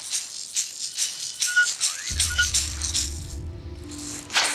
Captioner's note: distorted voice; whistling